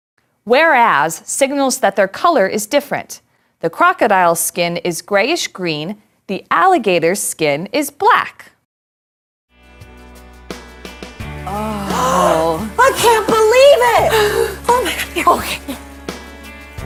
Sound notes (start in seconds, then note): 8.6 gasps